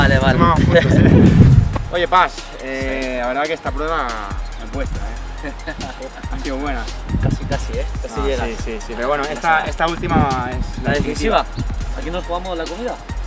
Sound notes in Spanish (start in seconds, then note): 0.5 risas